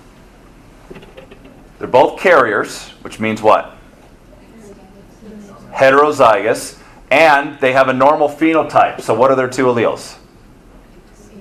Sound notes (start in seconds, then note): 4.4 students murmur answer